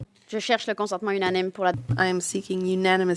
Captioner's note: speaking French